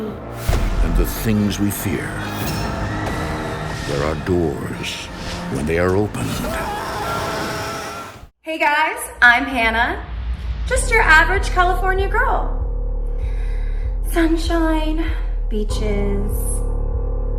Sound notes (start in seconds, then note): 6.2 screaming